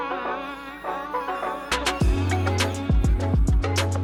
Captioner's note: hydraulics screeching; upbeat music playing